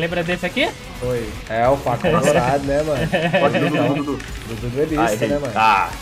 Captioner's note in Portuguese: risos